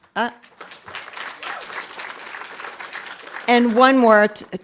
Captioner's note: audience applauding